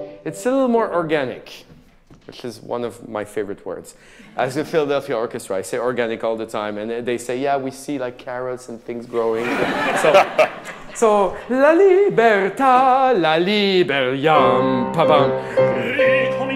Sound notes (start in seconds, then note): 9.1 audience laughing; 12.4 singing in a foreign language